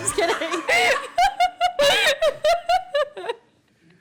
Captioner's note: laughter